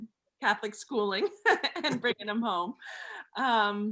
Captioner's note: laughs